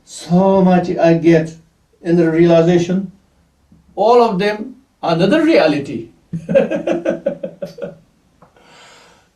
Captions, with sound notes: "So much I get in the realization." All of them another reality [laughs].